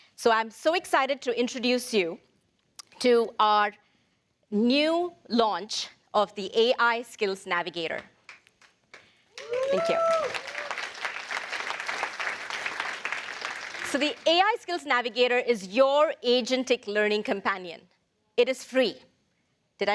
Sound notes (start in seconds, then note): 10.8 applause